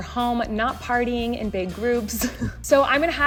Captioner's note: laughs